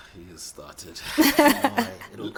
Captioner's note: laughs